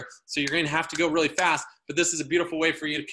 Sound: fingers snapping

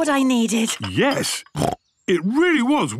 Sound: snorts

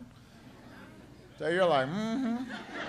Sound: laughter

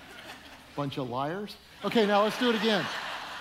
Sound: audience laughing

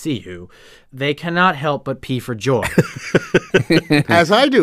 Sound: laughs

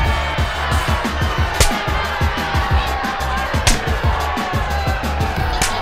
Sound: russian slap

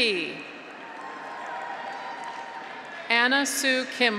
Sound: graduates cheer; audience applauds

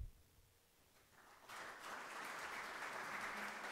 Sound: claps

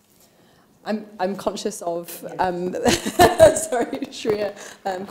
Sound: laughs

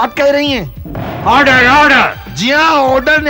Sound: gavel tapping

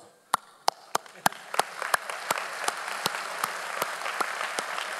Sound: audience applauding

